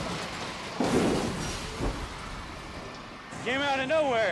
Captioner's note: bus thunking